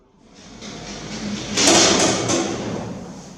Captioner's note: noise of rusty elevator doors opening